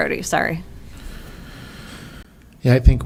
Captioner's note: bumped mic